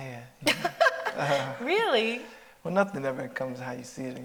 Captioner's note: chuckles